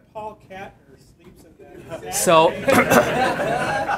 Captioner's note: laughter